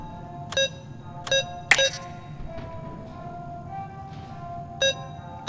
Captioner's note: beeping; beeping